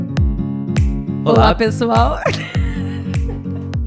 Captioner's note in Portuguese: risos